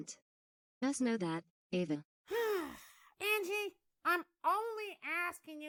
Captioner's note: sighs